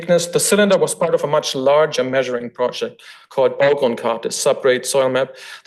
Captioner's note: foreign language